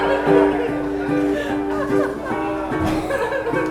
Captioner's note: audience laughing